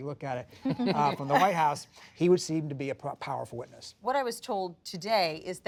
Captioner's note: laughter